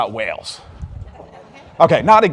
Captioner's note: audience laughs